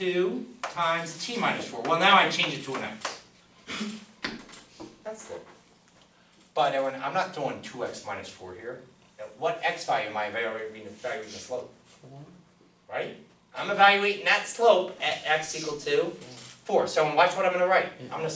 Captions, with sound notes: Two times T minus four. Well, now I change it to an X. That's it. But everyone, I'm not doing two X minus four here. What X value am I evaluating the slope? - [Voiceover] Four? - Right. I'm evaluating that slope at X equal to four. So, watch what I'm gonna write.